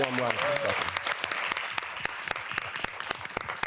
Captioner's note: applause